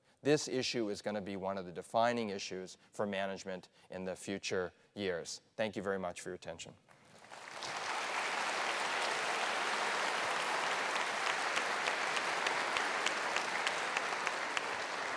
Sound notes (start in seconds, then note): 7.0 applause